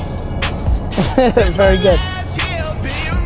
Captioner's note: laughs